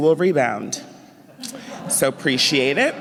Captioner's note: laughter